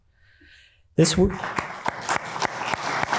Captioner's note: audience applauds